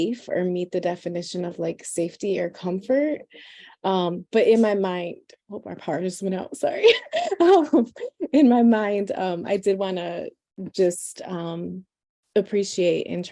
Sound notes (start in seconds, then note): 6.9 laughs